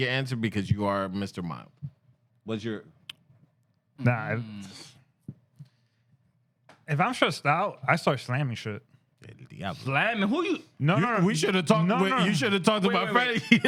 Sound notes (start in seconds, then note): 10.5 speaking Spanish